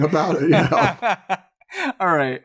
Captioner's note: laughter